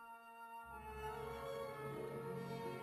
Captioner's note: none